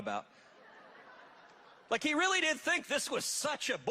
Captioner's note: audience laughing